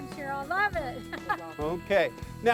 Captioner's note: laughs